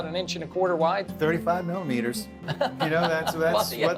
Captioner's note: laughing